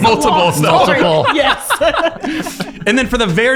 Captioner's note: laughing